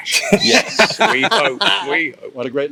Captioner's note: laughing